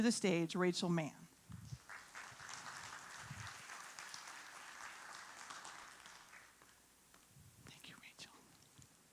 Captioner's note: applauding